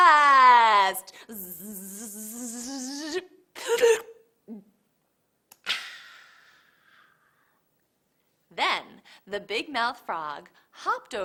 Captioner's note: buzzes like a bug, slurps, and swallows